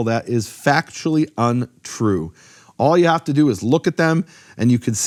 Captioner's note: none